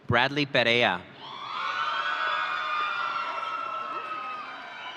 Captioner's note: audience cheering